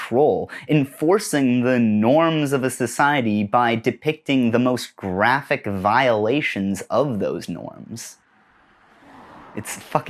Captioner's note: car noise